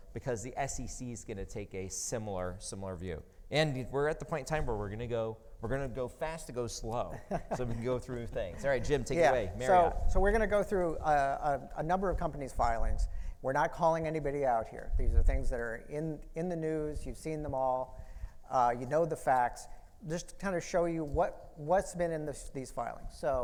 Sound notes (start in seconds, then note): 7.0 laughing